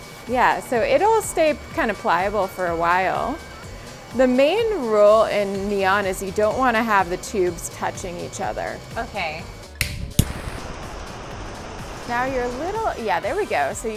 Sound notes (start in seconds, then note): 9.7 lighter igniting; 9.8 flames burning